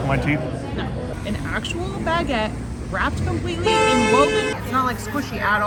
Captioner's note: horn honk